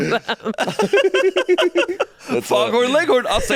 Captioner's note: all laughing